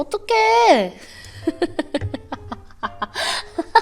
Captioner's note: just laughing